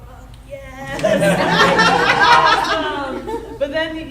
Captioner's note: audience laughing